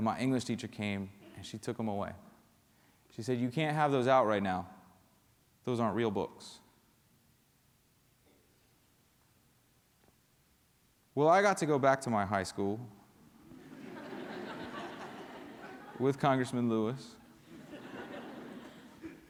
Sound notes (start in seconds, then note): 10.3 laughter; 19.0 laughter